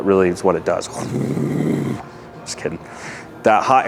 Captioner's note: imitates furnace roaring